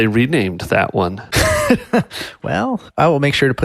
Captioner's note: laughing